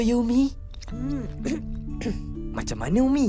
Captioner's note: coughs